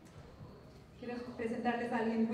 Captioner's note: non-english speech